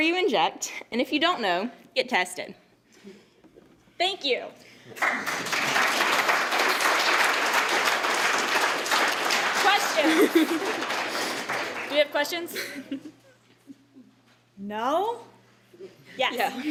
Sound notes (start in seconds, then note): 4.9 applause